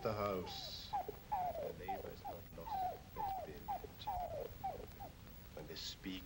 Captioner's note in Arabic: كلب يئن